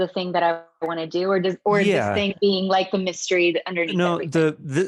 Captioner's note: faintly speaking